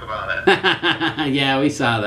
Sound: laughs

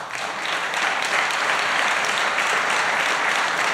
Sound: applause

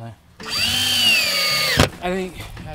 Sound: drill hums

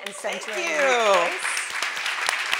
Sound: audience applauding

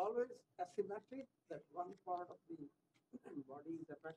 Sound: off microphone

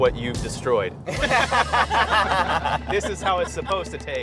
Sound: all laugh

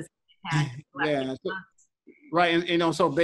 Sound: audio distorts

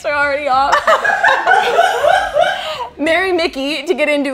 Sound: laughs

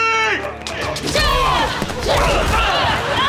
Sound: grunting

